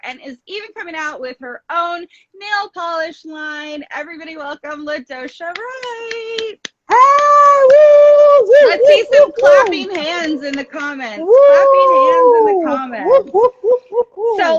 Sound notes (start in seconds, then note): 6.9 cheers; 6.9 claps